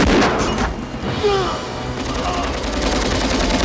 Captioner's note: groans